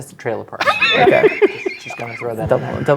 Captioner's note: laughing